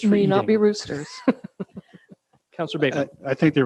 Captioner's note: laughs